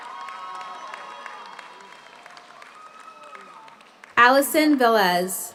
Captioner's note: audience cheers; audience applauds